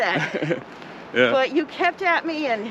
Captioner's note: laughs